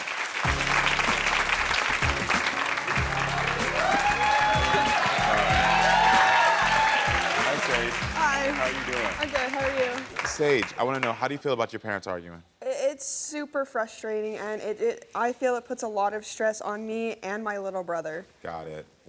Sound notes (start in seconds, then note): 0.1 audience applauding; 3.3 audience cheering